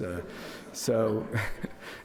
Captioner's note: audience laughs